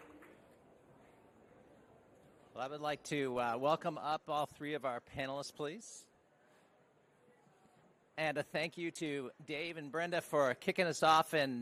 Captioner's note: applause